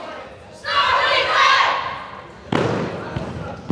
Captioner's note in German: im Chor